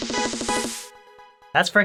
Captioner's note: silence